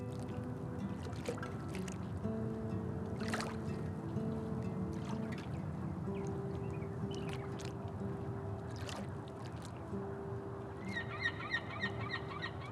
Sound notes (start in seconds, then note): 0.7 water rippling; 10.6 gull cries